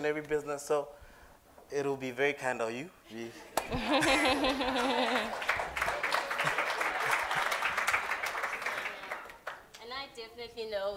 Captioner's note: applause